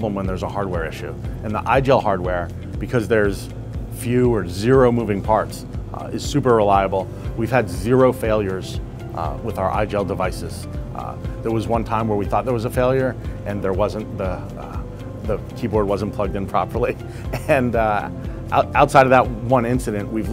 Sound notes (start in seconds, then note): 17.3 chuckling